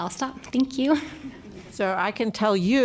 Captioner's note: laughter